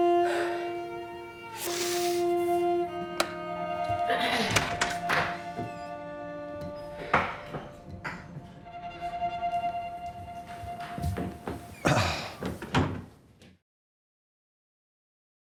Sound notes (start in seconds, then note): 4.0 Angela clearing throat; 11.8 Tommy clearing throat